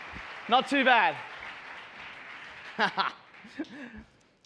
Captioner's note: laughs